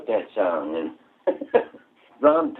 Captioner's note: laughter